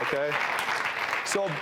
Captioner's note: audience applauding